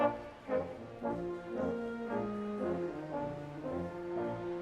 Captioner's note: none